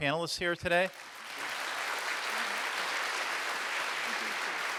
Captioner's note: audience applauds